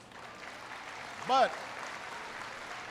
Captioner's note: applause